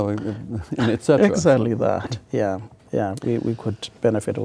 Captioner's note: laughing